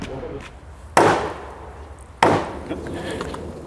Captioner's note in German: Klopfen